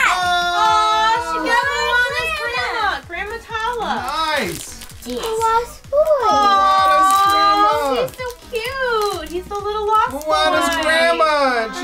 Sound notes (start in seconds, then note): 0.0 excited squealing; 5.1 excited shouts